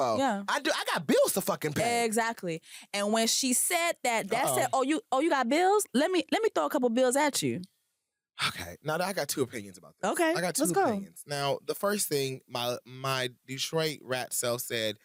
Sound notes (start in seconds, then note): 8.4 sighs